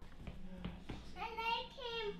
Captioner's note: speaking in alternate language